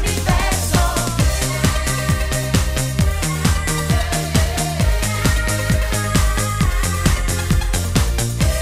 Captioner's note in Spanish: ah, ah, ah, ah